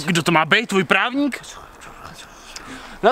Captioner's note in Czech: Šeptaní